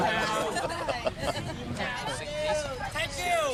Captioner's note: all laughing